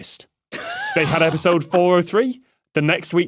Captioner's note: wheezes